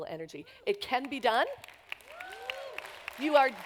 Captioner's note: applause